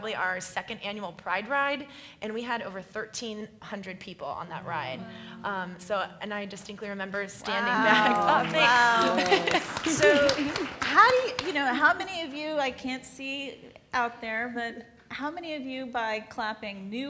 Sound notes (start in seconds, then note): 7.8 applauds